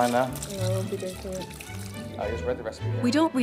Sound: faintly speaking

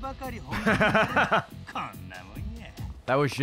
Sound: laughs

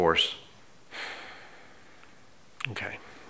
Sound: sighs

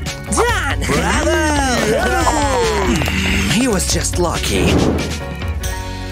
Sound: grumbles; snoring

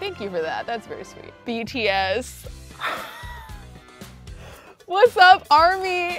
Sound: laughs

